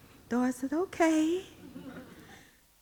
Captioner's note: audience laughing